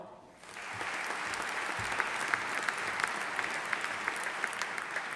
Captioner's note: audience applauding